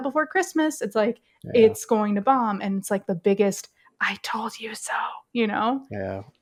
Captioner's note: whispers